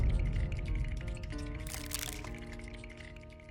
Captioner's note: teeth chattering